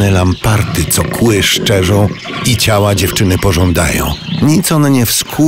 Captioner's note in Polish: pomruki lampartów